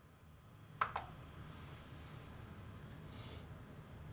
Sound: clicking

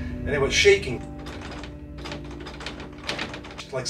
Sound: door rattling

